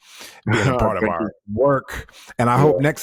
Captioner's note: chuckling